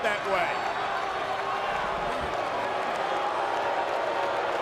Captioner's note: crowd booing